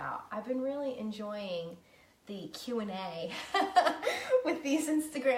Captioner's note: laughing